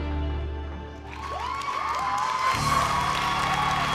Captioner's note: crowd cheering, clapping